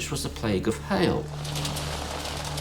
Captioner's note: beating hail